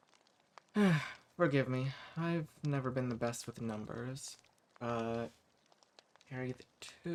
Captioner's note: sighs